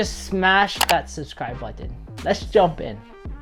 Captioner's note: button clicks